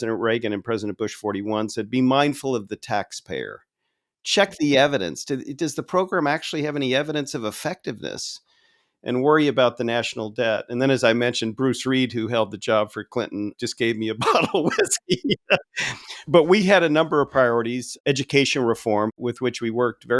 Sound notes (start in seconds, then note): 14.2 laughing